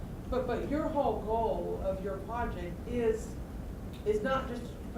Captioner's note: voiceover